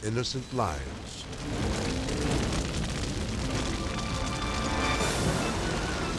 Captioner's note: fire roaring; edgy dramatic music; fast chaotic music